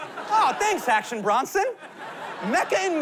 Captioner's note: laughter